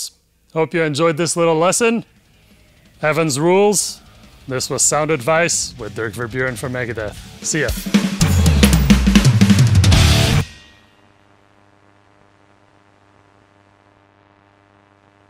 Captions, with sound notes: So there you go, folks. Hope you enjoyed this little lesson. Evans rules. This was Sound Advice with Dirk Verbeuren from Megadeth. See you. (drum booming) (static scratching) (screen buzzing)